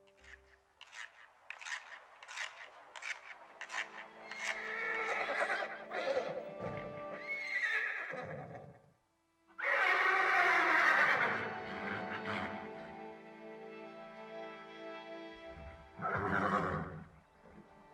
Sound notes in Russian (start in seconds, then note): 0.2 скрежет; 5.3 ржание лошади